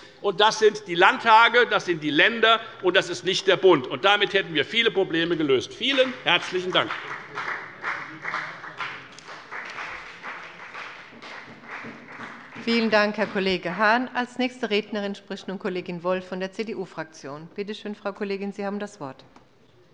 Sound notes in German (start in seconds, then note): 7.1 Beifall bei der FDP